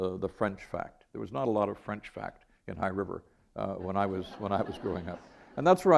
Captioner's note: laughter